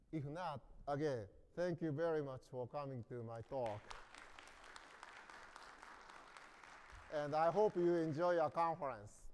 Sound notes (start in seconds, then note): 3.3 hands clapping